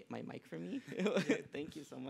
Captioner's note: laughter